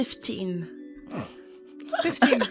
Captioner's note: laughter